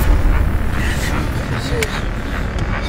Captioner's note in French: souffles angoissés